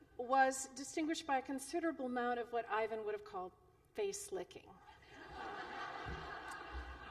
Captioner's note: laughter